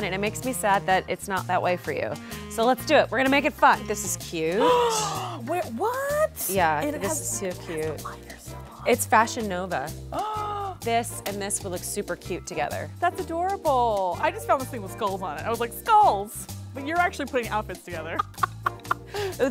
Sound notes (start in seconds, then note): 4.6 gasps; 10.2 gasps